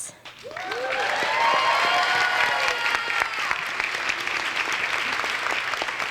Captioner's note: audience applauds; audience cheers